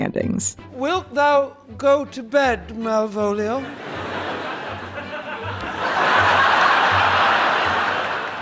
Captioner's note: audience laughter